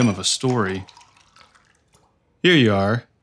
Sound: bar rattle

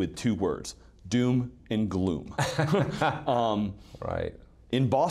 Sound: laughing

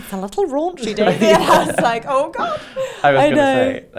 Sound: laughs

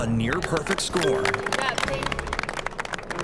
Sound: applause

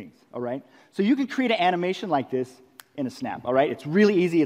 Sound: snap

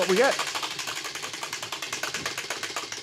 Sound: wheel clacking

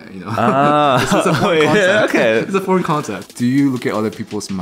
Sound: laughs

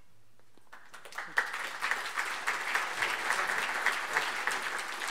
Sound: audience applauding

